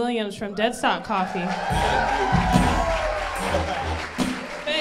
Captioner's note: crowd cheers